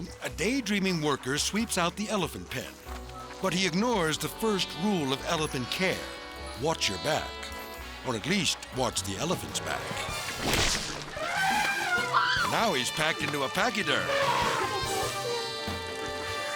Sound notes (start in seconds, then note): 9.4 sphincter sloshes; 11.0 elephant trumpets; 11.2 worker screaming